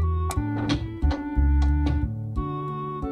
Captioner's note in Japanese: 扉の開閉音：ガチャ･･･バタン